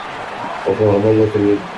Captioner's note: crowd Noises